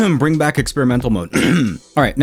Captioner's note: cough